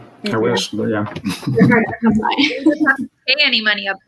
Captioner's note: radio interference drowns out speaker